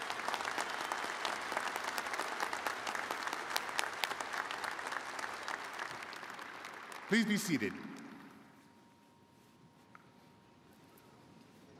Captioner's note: applause